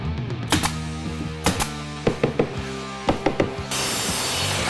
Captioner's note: hammer tapping